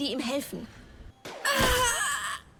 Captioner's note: bang